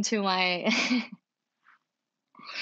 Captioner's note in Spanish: risas